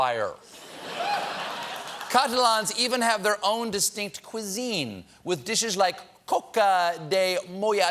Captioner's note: laughter